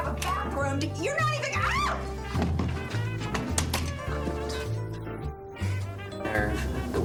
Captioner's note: screams